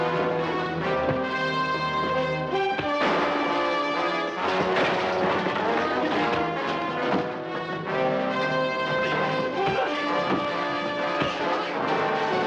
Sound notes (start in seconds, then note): 3.1 gun firing; 4.7 dramatic music